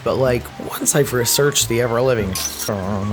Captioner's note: crash